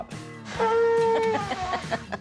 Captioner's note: horn blows; laughs